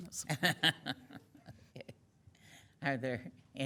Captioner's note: laughing